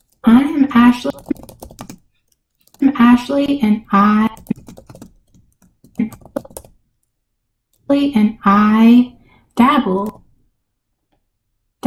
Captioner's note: typing aggressively